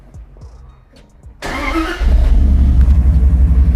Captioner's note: engine starting